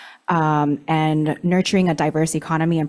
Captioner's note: none